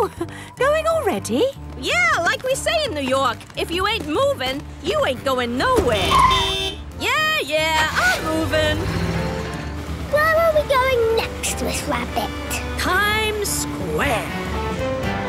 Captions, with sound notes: - Oh! Going already? - Yeah, like we say in New York, if you ain't movin', you ain't goin' nowhere! (honking) Yeah, yeah! I'm movin'! - Where are we going next, Miss Rabbit? - Times Square!